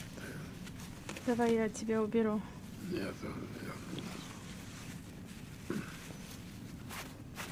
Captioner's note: clears throat